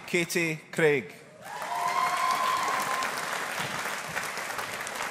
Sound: audience applauding

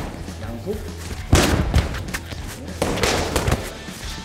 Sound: hearts ♥ thump

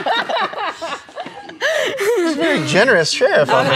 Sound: laughing

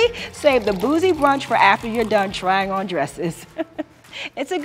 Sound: laughs

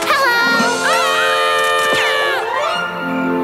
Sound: screaming

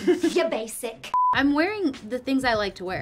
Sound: laughing; beeping

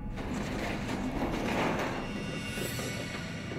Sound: scratching

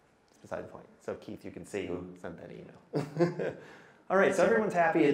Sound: laughs

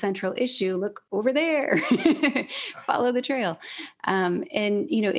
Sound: laughs

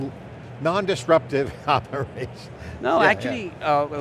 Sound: laughs

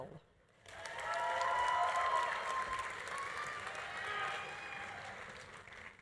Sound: audience applauding; audience cheering

